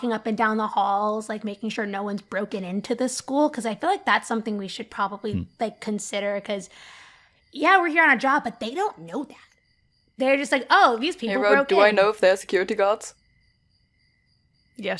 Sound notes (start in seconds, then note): none